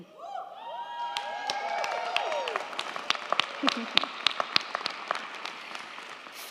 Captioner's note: crowd cheering; crowd clapping